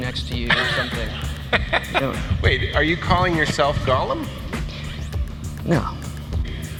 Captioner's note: laughing